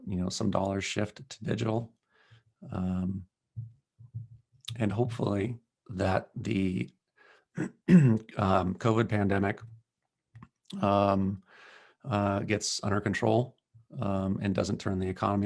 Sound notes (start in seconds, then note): 7.6 cough